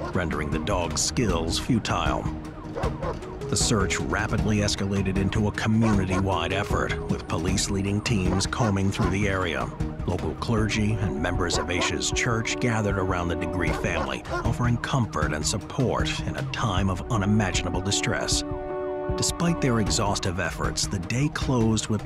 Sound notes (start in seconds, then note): 2.2 dramatic music; 2.7 dog barking